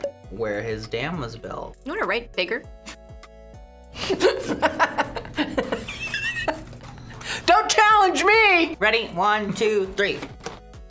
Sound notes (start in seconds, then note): 4.0 laughs